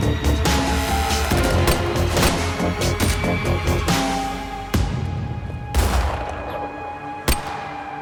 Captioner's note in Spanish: Disparos